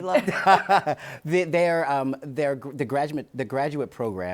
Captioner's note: laughs